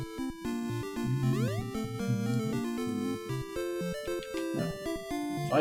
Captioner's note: humming along